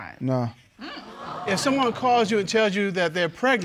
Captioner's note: audience exclaiming